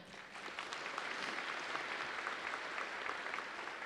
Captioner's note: audience applauds